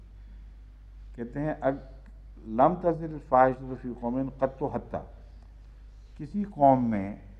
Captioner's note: Arabic